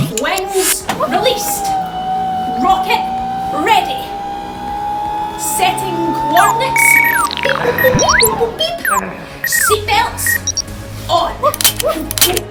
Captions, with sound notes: Wings released. [ROCKET ENGINE STARTING] Rocket ready. Setting coordinates. BEEP, BOOP, BOOP, BEEP, BOOP, BOOP, BEEP. Seatbelts on. Woo